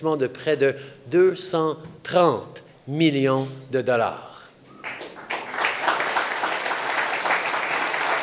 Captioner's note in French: Applaudissements